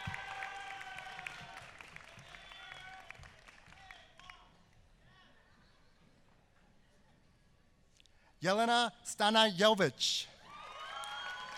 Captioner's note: applause; applause